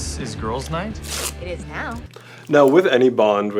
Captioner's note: duct tape ripping